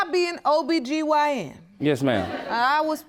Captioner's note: audience laughing